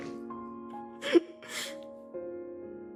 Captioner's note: sobs